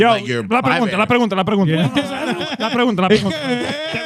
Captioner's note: speaking In Foreign Language